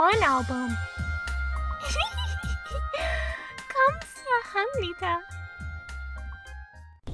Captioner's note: giggle